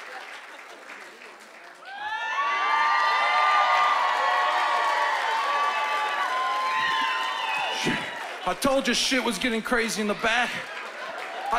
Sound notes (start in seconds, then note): 2.2 cheering and applause